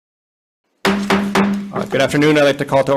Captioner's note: gavel banging